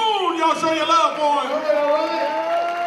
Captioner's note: applause